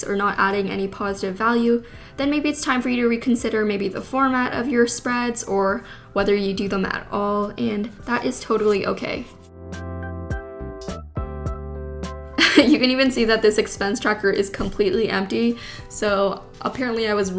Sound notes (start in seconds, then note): 10.1 gentle jazzy music; 12.4 laughs